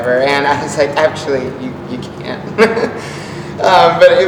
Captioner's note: laughs